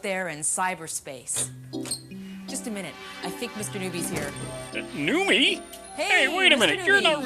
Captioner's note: door opening